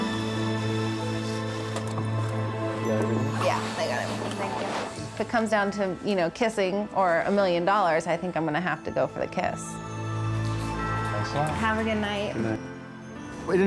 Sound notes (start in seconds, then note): 1.8 car door clicks